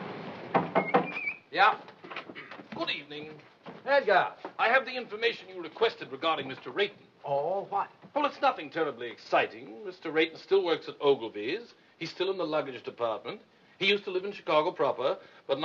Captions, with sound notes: [KNOCK ON DOOR] [WHISTLING] YEAH? GOOD EVENING. EDGAR. I HAVE THE INFORMATION YOU REQUESTED REGARDING MR. RAYTON. OHH, WHAT? WELL, IT'S NOTHING TERRIBLY EXCITING. MR. RAYTON STILL WORKS AT OGILVY'S. HE'S STILL IN THE LUGGAGE DEPARTMENT. HE USED TO LIVE IN CHICAGO PROPER,